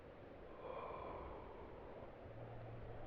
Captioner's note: exhales gently